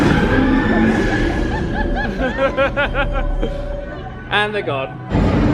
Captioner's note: both laughing